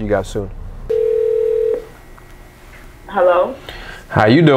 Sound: phone ringing

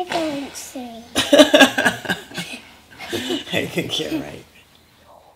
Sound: mother laughs

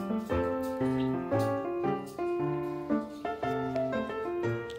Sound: make a rustle

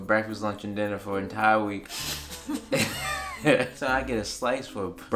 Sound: laughing

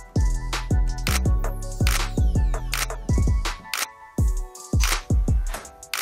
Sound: camera shutter clicking

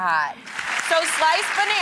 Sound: audience applause

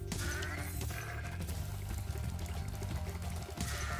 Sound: ram bleats

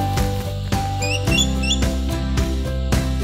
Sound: goshawk calling

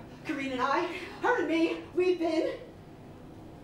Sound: none

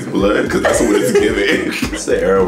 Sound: laughing

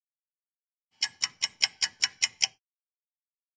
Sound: sound of a ticking clock

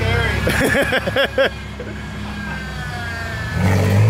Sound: yells; laughs

